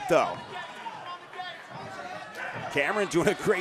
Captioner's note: audience cheering